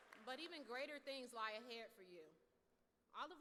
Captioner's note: applause